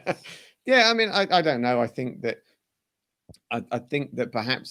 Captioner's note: laughter